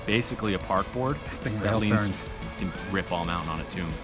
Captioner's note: murmurs